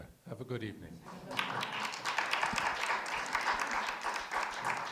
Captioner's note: all clapping